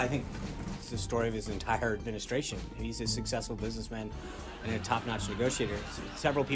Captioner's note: raucous laugh track